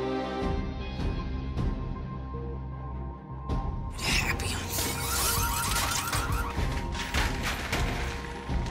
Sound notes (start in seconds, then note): 5.0 alarm Sound; 5.1 glass Breaks